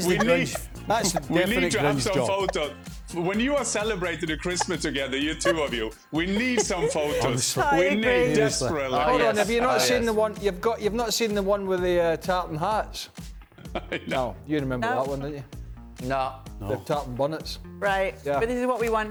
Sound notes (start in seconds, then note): 4.5 laughter